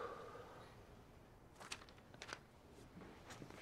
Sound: TK sighs

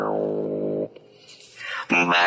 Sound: breathes

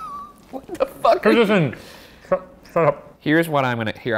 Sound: laughs

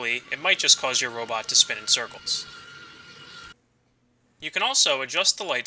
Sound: robot noises

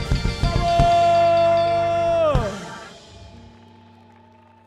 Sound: music concludes; fan trilling

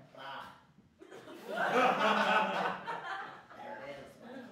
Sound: laughter

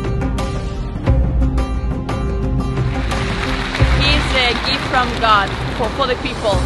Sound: applause

